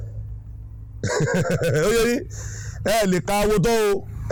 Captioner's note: laughing